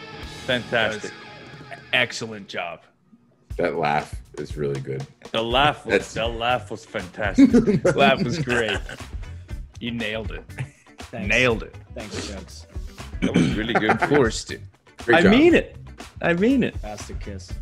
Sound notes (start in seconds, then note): 7.3 laugh